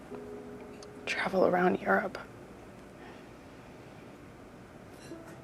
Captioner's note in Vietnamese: none